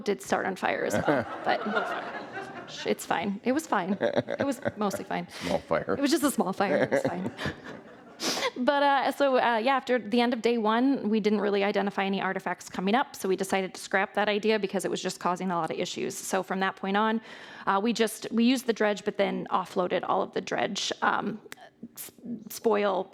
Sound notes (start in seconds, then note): 0.8 audience laughing; 3.6 laughing